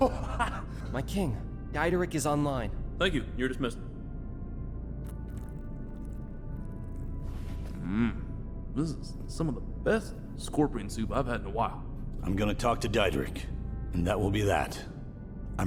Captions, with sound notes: (Sargon laughing) - My king, Diederick is online. - Thank you. You're dismissed. (Sargon slurping) Mm, this is some of the best scorpion soup I've had in a while. - I'm gonna talk to Diederick, and that will be that.